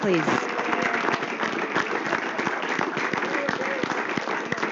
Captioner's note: applause